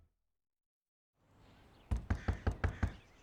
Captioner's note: knocking